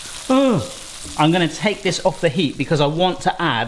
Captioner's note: gasps